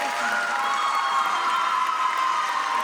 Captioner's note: audience applauding